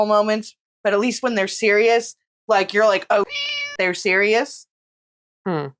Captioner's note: meow